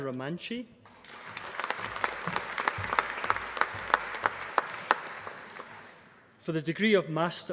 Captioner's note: applause